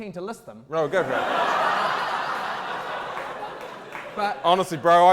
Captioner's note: audience laughter